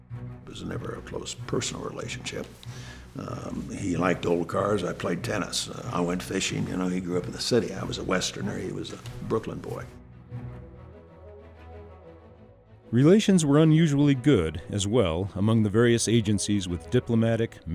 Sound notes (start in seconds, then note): 12.7 voiceover